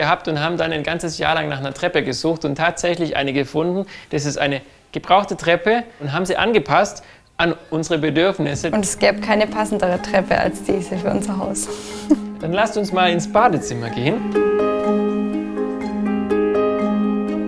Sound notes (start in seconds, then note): 8.9 laughs; 14.3 calm music